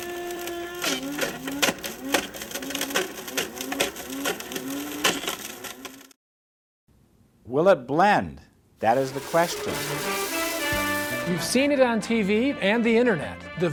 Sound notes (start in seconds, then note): 0.0 blender crunches; 8.8 blenders grinding; 8.9 upbeat classical music